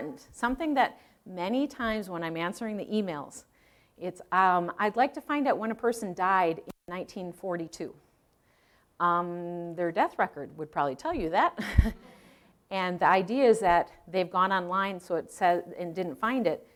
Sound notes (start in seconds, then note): 11.6 chuckling